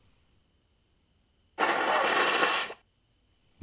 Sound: blows nose loudly

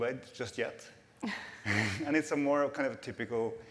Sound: laughter

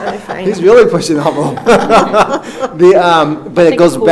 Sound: laughs

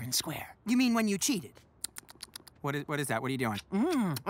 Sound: smacking lips

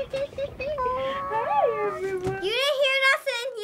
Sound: giggling; awwing

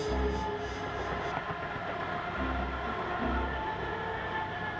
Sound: train Passes In The Background

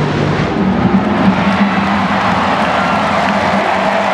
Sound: crowd cheering

